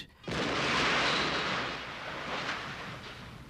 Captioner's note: explosion